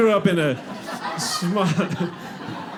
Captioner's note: audience laughs